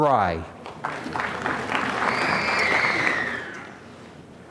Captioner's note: applause